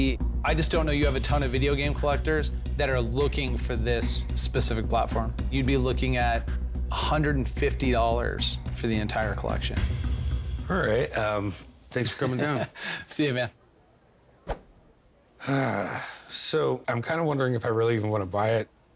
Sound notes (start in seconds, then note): 12.0 laughs; 15.4 sighs